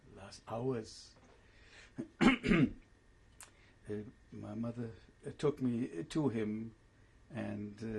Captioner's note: pauses for 3 seconds